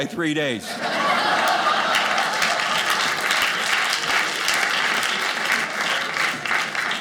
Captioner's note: audience laughing